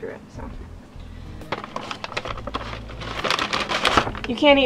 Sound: paper ruffling

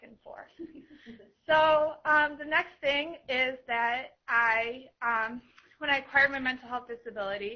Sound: laughter

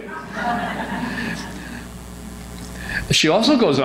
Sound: audience laughs

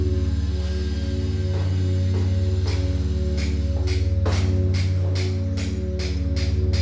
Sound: construction work sounds

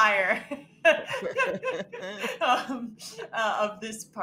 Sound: all laughing

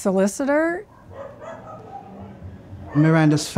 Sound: dogs barking

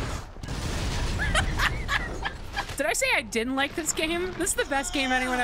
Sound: laughing

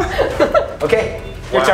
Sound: chuckling

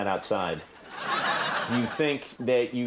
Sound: audience laughs

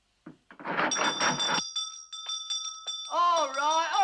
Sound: ringing continues

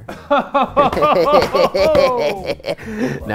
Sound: laughter

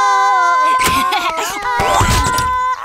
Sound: giggles

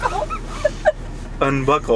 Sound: laughing

